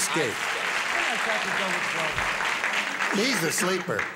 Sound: applause, indistinct chatter

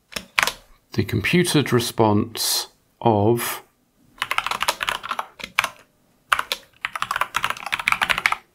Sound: typing

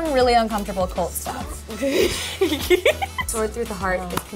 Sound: China laughs

